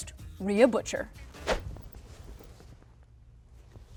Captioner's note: whoosh